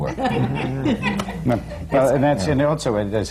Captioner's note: laughs